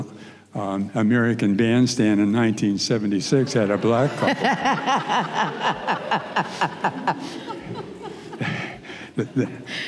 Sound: muffled sound of laughter

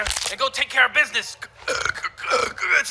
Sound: burps

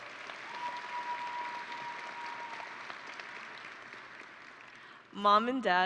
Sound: audience and graduates applauding

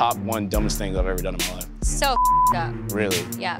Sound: beep

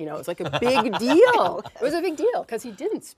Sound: laughing

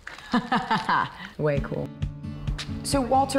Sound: laughter

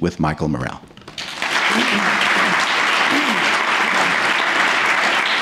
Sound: applause

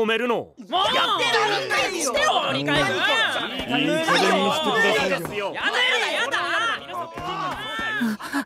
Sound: Charismatics yelling at him

